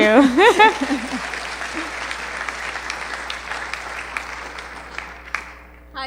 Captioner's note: applause